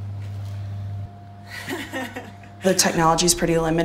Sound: laughs

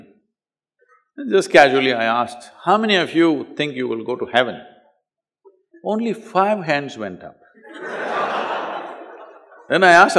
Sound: laughter

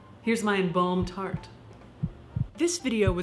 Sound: heart beating

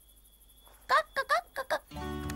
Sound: clucks

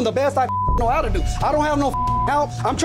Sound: beeping

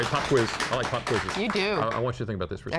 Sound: applause

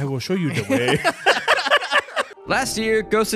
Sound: both laughing

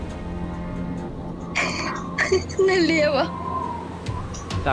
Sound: laughs

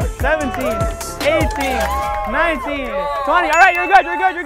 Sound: bell dings

